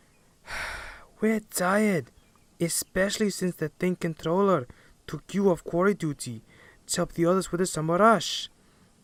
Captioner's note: sigh